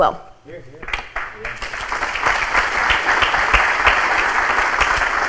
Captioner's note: crowd applauding